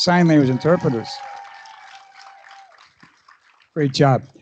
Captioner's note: applause